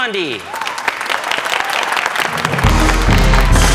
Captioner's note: students clap; suspenseful music